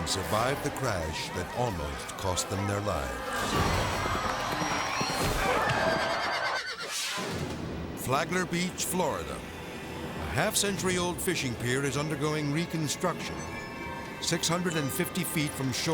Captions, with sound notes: and survived the crash that almost cost them their lives. (hooves pattering) (cowboys grunt) (horse neighs) (graphic swishes) Flagler Beach, Florida. A half-century-old fishing pier is undergoing reconstruction. 650 feet from shore,